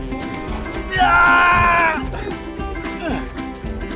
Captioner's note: country music; loud screams